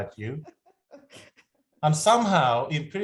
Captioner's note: laughter